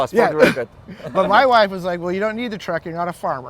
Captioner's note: güler